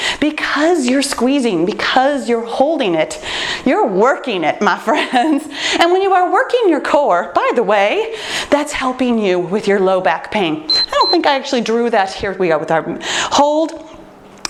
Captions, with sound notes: because you’re squeezing, because you’re holding it. You’re working it my friends. [laughs] When you are working your core, by the way, that’s helping you with your low back pain. [timer beeps] I don’t think I actually drew that. Here we are with our hold.